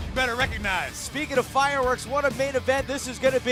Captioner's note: none